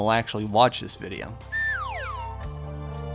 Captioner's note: slide whistle sound effect